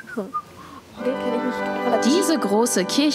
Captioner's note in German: Er pfeift